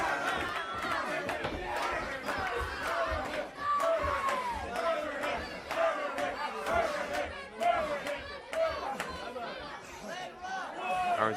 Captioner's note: crowd cheering